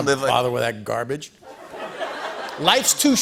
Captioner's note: laughter